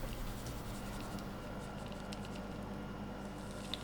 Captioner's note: distant whirring